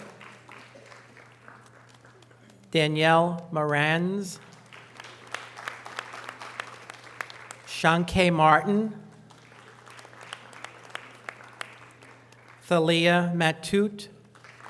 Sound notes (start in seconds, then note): 0.0 audience applause; 4.3 audience applause; 9.0 audience applause